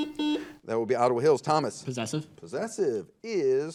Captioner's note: buzzer